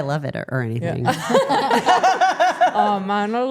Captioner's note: everyone laughing